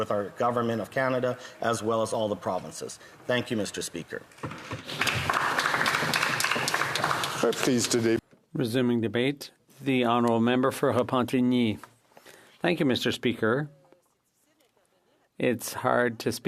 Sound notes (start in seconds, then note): 8.1 applause